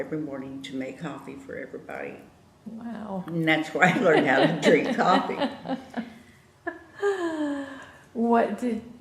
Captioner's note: laughter